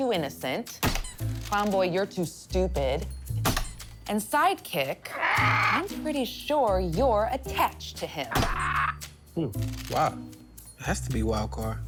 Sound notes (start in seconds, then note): 0.8 mallet squeaks; 3.3 mallet squeaks; 5.1 bird squawks; 8.3 bird squawks; 8.3 mallet squeaks